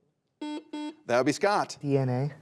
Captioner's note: buzzer buzzes